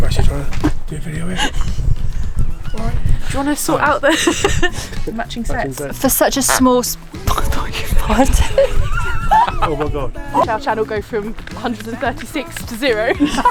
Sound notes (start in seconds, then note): 4.6 laughing; 6.0 dog toy squeaks; 12.8 laughing